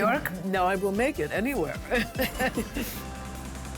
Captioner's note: laughs